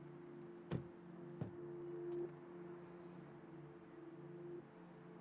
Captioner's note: car doors thudding